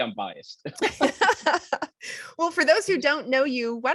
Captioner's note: laughing